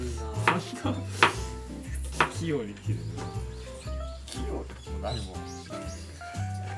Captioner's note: laughs